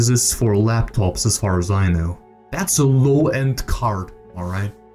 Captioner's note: none